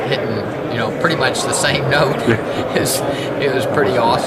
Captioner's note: laughs